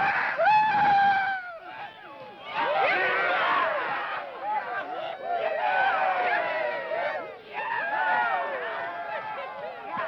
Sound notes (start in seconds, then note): 1.8 men cheering